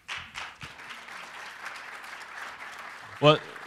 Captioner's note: applause